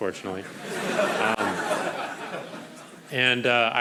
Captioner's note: crowd laughing